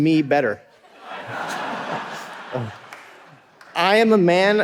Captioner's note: audience laughing